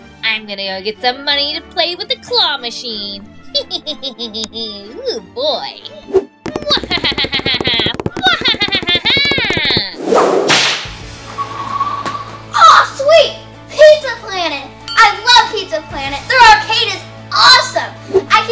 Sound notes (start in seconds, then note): 3.5 laughing; 6.4 footsteps pattering; 6.6 laughing maniacally; 9.9 whip lashes